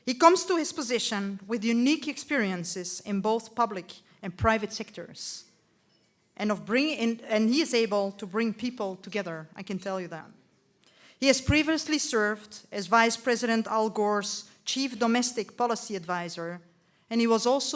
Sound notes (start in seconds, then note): none